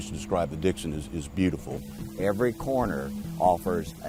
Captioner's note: voiceover